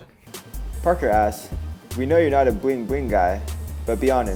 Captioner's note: voiceover